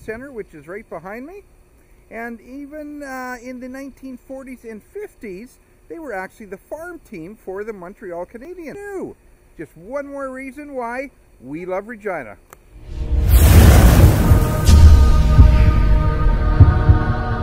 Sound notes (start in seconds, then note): 12.8 loud swoosh; 14.7 choir sings